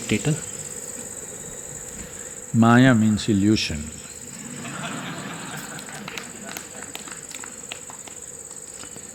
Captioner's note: laughs